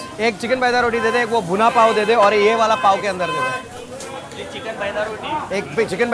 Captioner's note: and vendors converse in foreign language